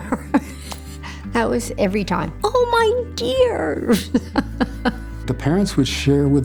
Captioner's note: chuckles; laughing